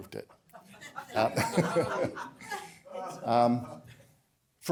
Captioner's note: laughter